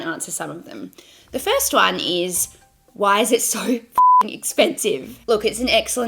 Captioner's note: beeps